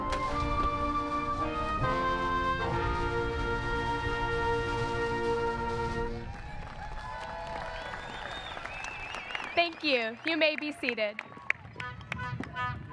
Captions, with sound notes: (audience applauds) Thank you, you may be seated.